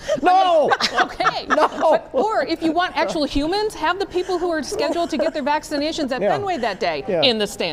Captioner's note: laughter